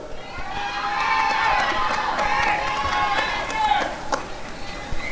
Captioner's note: applause and cheering